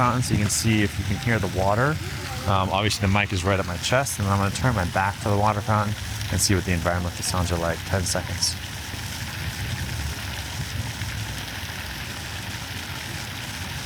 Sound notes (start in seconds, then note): 9.1 water fountain pouring